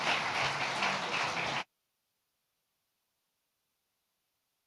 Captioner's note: audience applauds